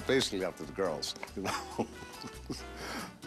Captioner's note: laughs